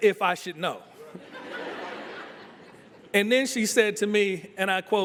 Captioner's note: laughter